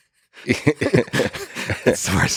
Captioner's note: Lex and Robin chuckle